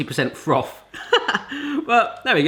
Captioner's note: laughing